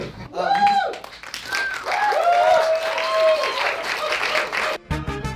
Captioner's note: audience cheers